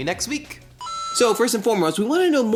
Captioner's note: super mario ding